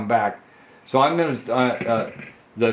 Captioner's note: stammers